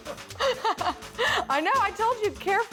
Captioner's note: laughs